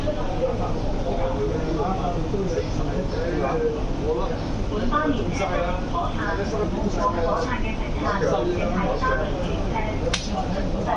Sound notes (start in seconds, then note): 4.7 粵語